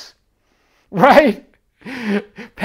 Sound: chuckling

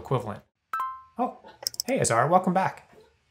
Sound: computer dinging

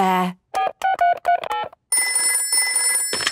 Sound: dial tones beeping; ringing

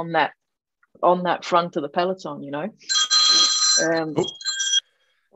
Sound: phone rings

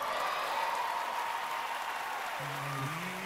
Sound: cheering, applause

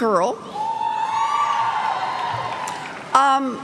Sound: cheers

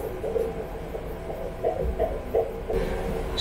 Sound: heartbeat

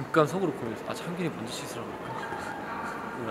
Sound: Devil's whisper

